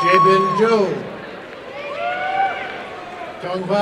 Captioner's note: applause and cheering